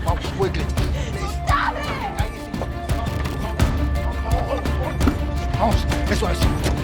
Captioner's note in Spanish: Gritos de Cecilia